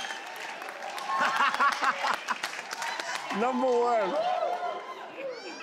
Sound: laughs

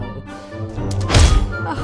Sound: thud

